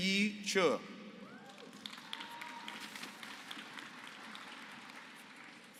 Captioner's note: applause